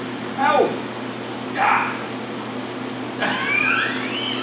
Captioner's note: shouts; laughs loudly